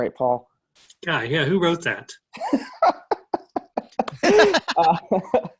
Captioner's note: laughing